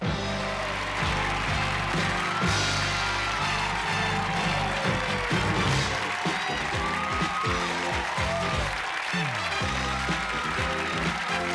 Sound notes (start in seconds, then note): 6.0 theme music playing; 8.0 cheers and applause